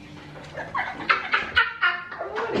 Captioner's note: all laughing